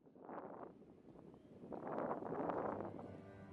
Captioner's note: wind blowing